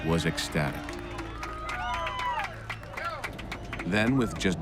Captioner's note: cheering and applauding